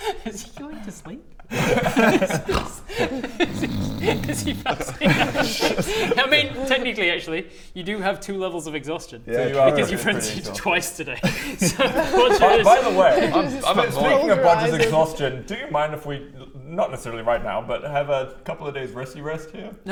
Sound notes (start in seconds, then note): 2.4 snores; 5.1 laughs